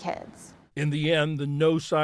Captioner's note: voice-over